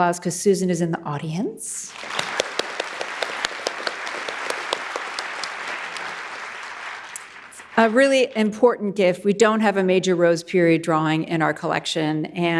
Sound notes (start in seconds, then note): 1.8 audience clapping; 1.9 clapping